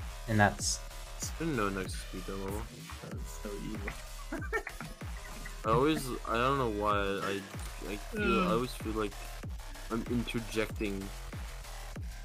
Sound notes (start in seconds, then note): 3.4 laughs